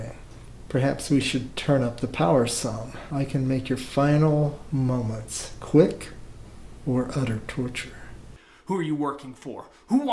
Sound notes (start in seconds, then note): none